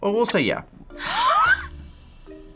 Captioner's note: gasping